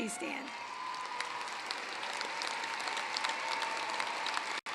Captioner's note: applause